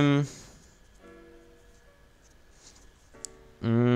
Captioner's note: painfully long silence